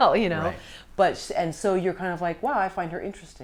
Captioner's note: laughs